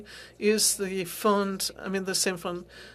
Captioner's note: speaking French